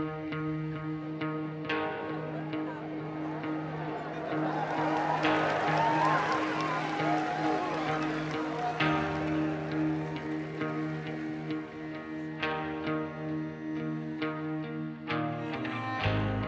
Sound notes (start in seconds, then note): 0.6 uplifting music continues; 4.5 crowd chattering; 4.5 crowd cheers; 12.6 uplifting music continues